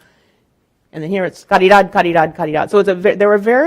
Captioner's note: speaking in Spanish